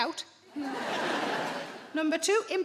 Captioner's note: audience laughing